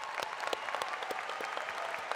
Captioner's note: applause